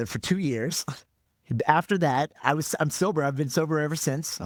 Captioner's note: laughing